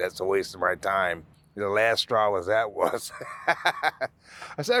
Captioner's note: laughing